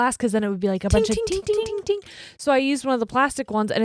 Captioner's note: high pitched dinging